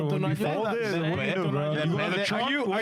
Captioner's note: speaking In Spanish